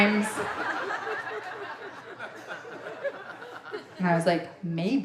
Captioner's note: audience laughing